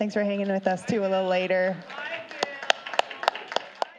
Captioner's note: applause